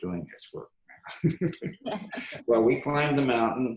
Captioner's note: laughs